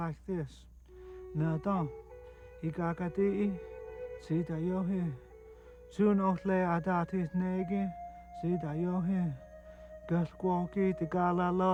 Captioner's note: praying in Cherokee